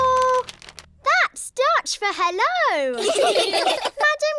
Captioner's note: laughter